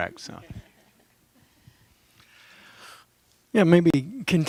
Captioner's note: laughter